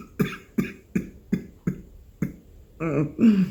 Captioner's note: coughs